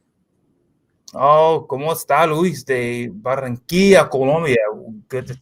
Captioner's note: speaking spanish